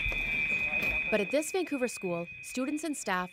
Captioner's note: earthquake alarm chimes